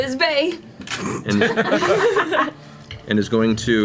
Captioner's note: all laugh